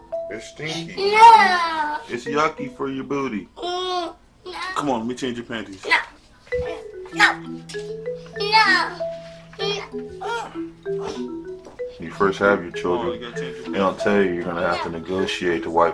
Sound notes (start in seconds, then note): 3.6 child Whining; 9.4 son Fussing